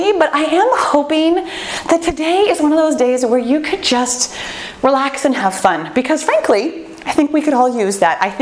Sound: none

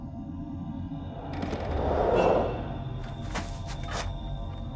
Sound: footsteps

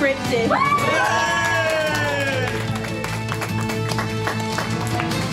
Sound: cheering, applause, music ends

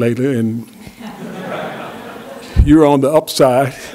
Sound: laughter

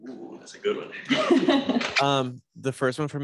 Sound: laughs

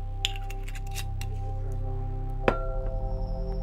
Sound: lid rattling

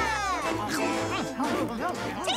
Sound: all cheering; chomping

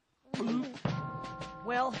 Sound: all gulp

